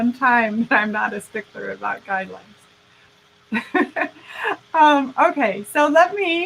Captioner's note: laughing